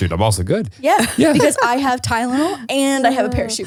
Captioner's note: laughs